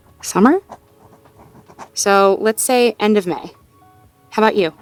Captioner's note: writing sounds